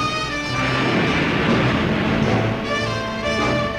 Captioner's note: waves roaring